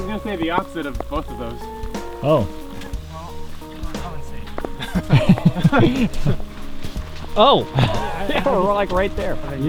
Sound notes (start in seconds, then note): 4.6 all laughing